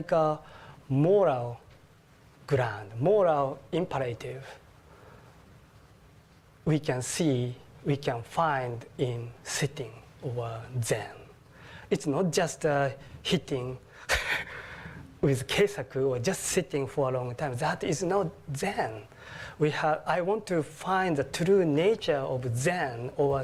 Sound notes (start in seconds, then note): 14.0 laugh; 14.8 japanese